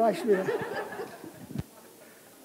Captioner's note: laughter